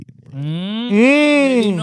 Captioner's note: groaning